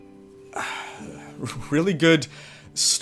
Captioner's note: heavy breath